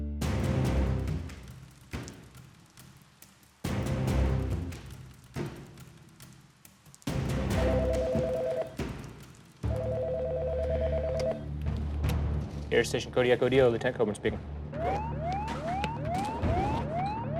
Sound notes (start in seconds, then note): 7.6 phone rings; 14.7 alarm blares